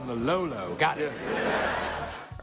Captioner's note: audience laughs